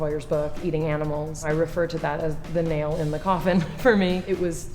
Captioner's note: laughs